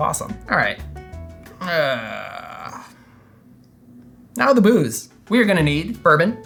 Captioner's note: ahhhh